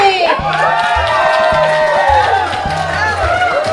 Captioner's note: crowd cheers